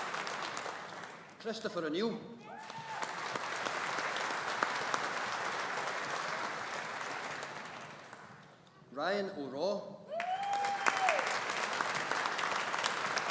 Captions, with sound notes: Christopher O'Neil. (AUDIENCE APPLAUDING) Ryan O'Raw. (AUDIENCE APPLAUDING)